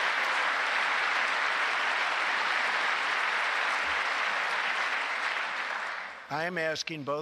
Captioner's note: applause